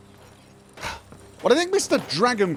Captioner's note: huff